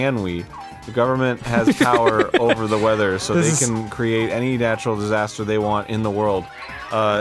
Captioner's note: giggles